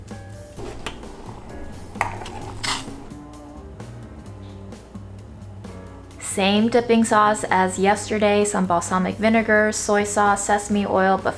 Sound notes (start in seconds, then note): 0.6 spoon scraping